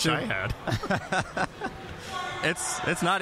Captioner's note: both laughing